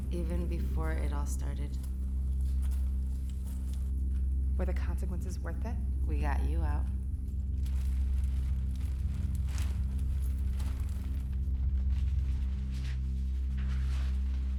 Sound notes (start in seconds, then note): 7.4 rattling